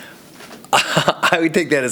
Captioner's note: laughs